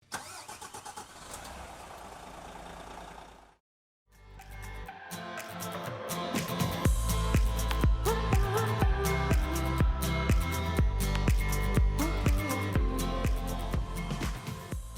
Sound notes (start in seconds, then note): 0.0 car engine; 4.6 upbeat music